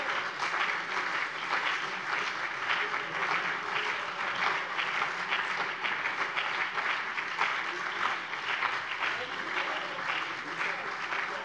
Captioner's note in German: Beifall CDU und BÜNDNIS 90/DIE GRÜNEN